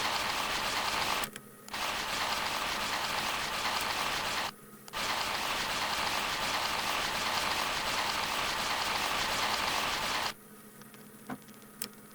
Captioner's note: sped-up minecart noise